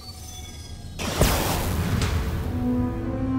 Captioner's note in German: Phasenpistole feuert